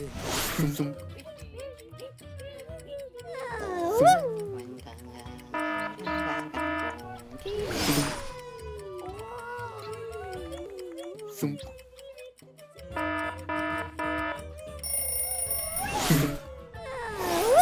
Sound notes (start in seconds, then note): 0.2 clock ticking; 5.5 alarm sounding; 7.2 clock ticking; 12.9 alarm sounding; 14.8 bell rings